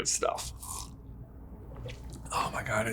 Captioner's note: sips coffee